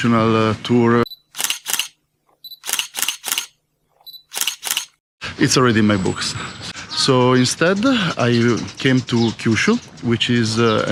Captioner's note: sound of photos